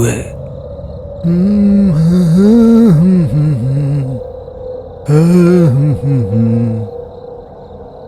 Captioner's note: humming